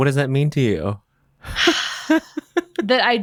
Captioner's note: bowen laughs